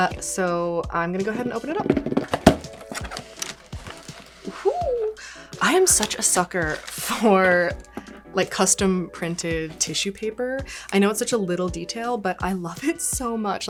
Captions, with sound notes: So, I'm gonna go ahead and open it up. (fingers tapping) (box flaps snapping) Whoo, I am such a sucker for, like, custom-printed tissue paper. I know it's such a little detail, but I love it so much,